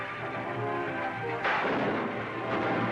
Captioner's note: gunshots